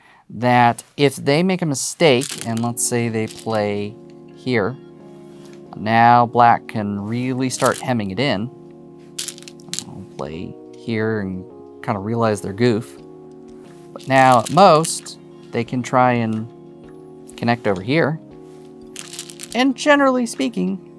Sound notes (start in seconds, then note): 2.1 stones rattling; 4.8 new song begins; 9.2 stones rattling; 13.9 stones rattling; 18.9 stones rattling